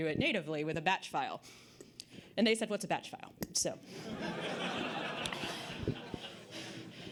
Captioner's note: audience Laughter